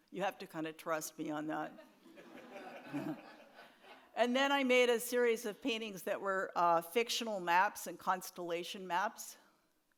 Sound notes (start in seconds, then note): 2.2 audience laughs